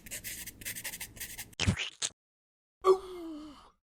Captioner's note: sound of scribbling; splat; frustrated Sigh